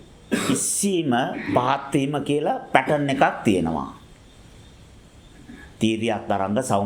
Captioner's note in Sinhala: උගුර කෑරීම